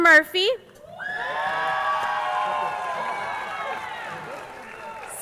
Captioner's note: crowd cheering